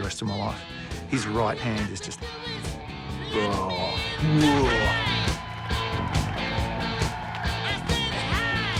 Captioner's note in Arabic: يقلد الزئير